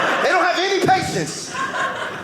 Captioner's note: audience laughing